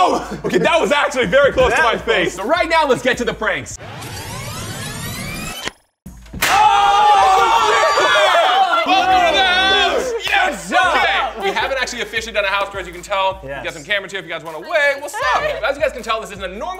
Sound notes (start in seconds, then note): 6.3 loud pop; 6.4 surprised shouting